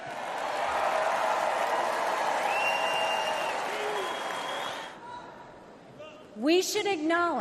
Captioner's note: crowd cheers